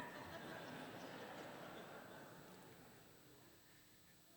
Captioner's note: laughter